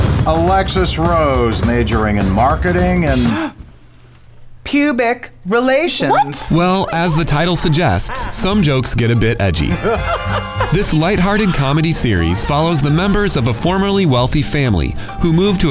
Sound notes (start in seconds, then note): 3.2 gasp